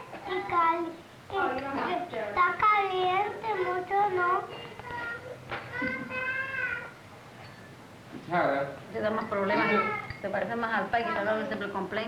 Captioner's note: Spanish speaking